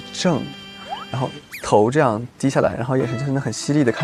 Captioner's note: imitates her